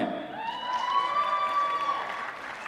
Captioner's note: applause